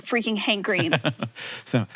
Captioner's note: Hank chuckles